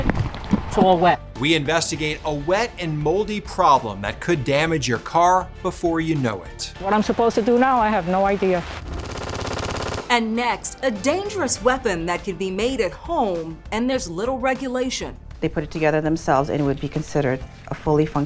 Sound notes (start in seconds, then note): 8.4 gunfire exploding